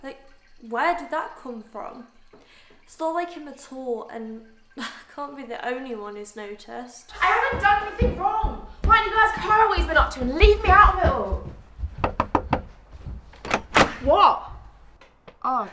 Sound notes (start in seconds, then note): 11.8 A knock on the front door